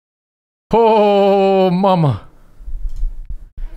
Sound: Johnny Bravo voice

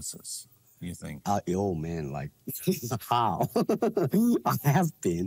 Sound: laughs

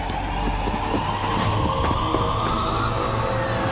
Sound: footsteps approaching

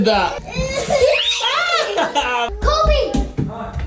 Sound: both laughing

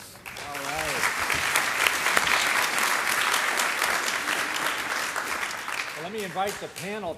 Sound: applause

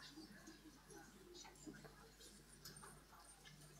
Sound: people chattering

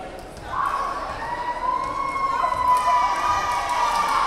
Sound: crowd cheering

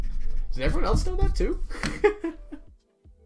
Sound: laughs

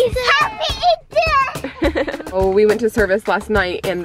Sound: laughing

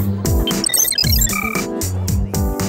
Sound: beeping

